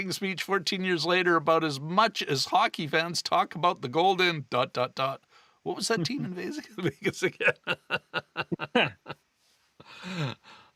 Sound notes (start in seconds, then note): 6.0 laughing